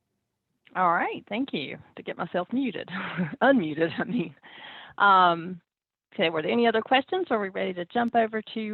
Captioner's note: chuckles